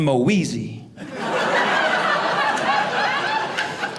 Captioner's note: audience laughing